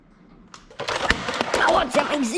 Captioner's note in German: schepper